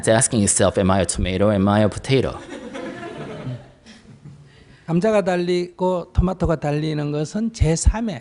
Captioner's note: audience Laughter